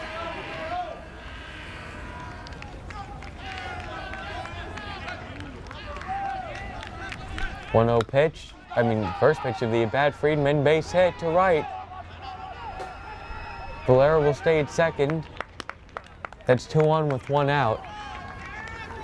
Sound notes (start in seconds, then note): 1.8 fans chanting; 7.8 bat cracks